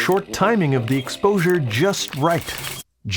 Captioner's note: mechanical clatter